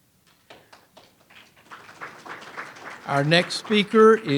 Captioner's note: audience applauds